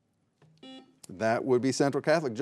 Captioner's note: buzzer buzzing